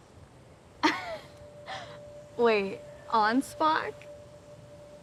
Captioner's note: laughs